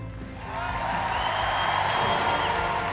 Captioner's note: cheering and applause